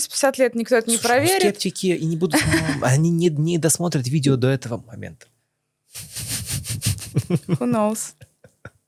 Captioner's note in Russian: смех